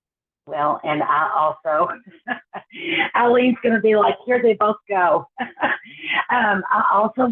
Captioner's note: laughs